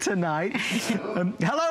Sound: laughter

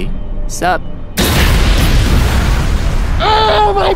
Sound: light whooshes

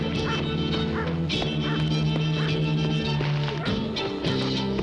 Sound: dogs barking

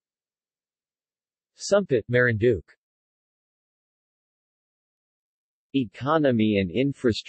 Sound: Tagalog

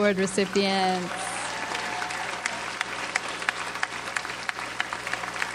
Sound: audience applauds

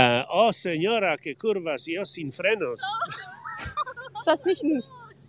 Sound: Spanish

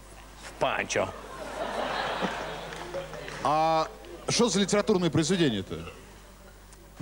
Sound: laughter

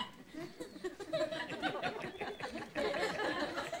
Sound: audience laughs

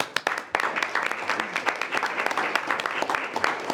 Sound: board applauding

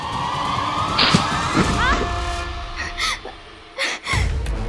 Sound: yelps

